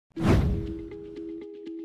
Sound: whoosh Sound

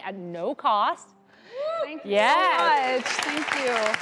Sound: audience applauds And whoops

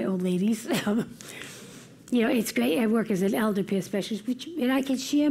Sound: laugh

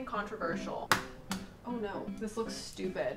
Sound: egg cracking

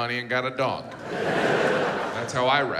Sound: audience laughs

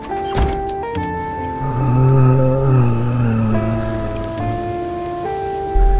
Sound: groans

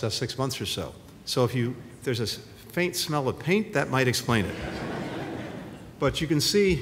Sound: laughter

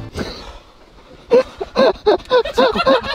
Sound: cameraman bursts into laughter

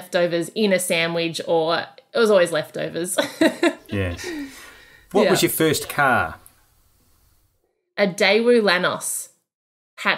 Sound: laughing

